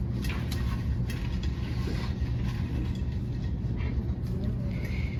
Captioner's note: papers rustling